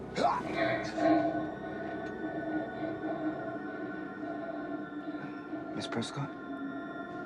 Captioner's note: eerie music; Jackson grunts; Mya panting; Mya panting; pensive music